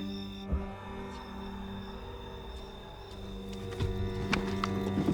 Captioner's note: boot whirring